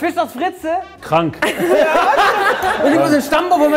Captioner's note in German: Gelächter